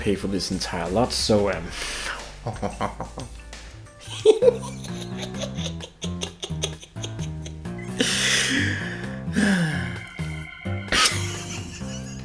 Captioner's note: opens lid and laughs, then shows camera